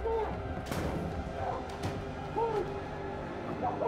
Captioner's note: muffled yelling